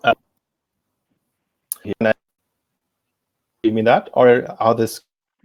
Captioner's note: distortion muffles speaker